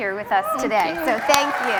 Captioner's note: cheers and Applause